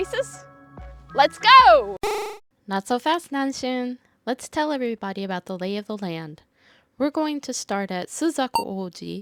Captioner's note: buzzer